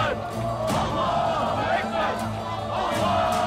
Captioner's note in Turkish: Hep bir ağızdan